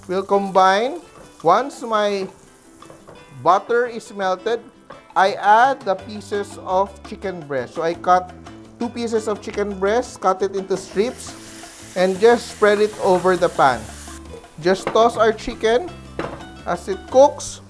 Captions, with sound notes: [Sizzle] will combine -- [Sizzle] [Sizzle] once my -- [Sizzle] [Sizzle] butter is melted, -- I add the pieces of chicken breasts. So, I cut -- two pieces of chicken breasts; -- cut it in to strips. [Sizzle] [Sizzle] and just spread it over the pan. [Sizzle] Just [Knock] toss our chicken -- [Sizzle] [Sizzle] [Knock] [Sizzle] as it cooks.